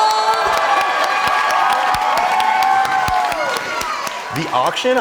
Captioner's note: cheering